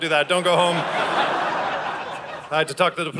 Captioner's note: audience laughing